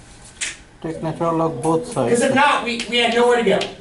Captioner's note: voiceover